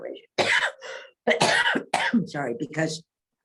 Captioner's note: coughs